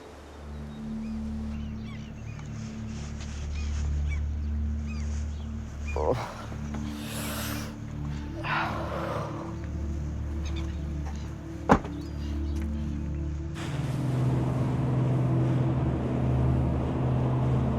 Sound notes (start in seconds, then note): 2.1 melancholy music; 6.0 groans; 8.4 gasps; 11.6 car door slams; 13.5 boat engine hums